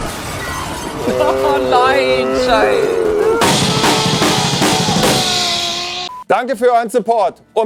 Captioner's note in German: Geräusche der Enttäuschung